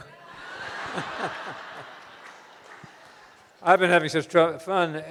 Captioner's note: audience laughing